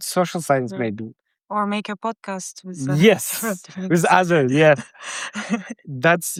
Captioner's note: chuckles; both laughing